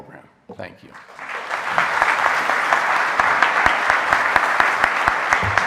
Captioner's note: audience applauding